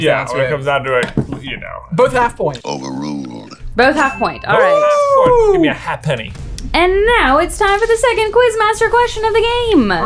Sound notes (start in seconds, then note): 4.5 whooping